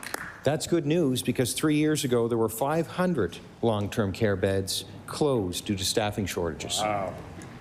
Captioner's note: applause